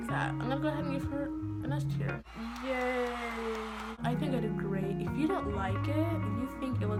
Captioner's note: clapping